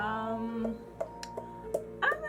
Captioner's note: tap tap tap